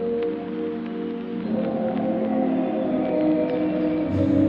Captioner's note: birds singing